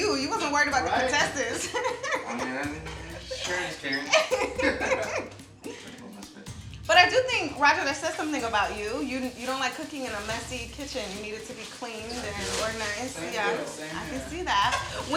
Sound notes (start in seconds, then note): 2.0 laughs